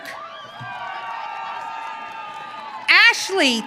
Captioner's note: audience cheering